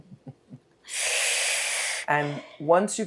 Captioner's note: sighing